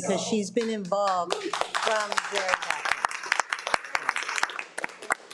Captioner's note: participants applauding